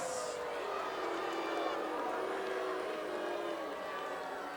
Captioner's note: audience booing